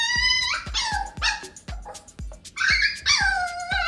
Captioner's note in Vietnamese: tiếng sủa